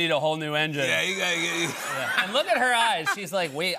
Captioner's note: laughter